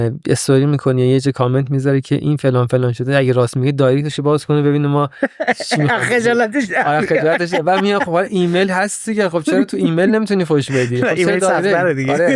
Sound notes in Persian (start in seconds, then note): 5.2 خنده